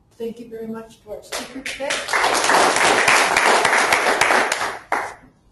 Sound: audience claps

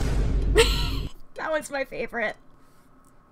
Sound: Vine boom; laughs

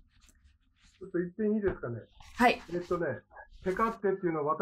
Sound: speaking japanese

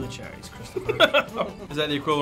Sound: laughing

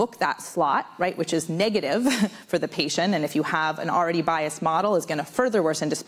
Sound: laughs

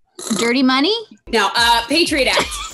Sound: Candace snorts

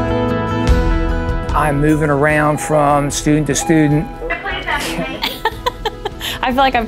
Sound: intercom Beeps

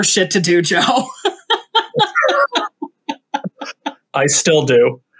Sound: both laugh

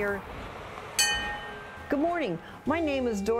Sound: bell clangs

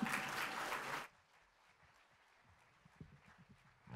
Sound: applause

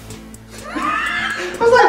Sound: laughter

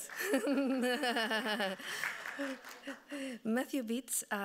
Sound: laughing

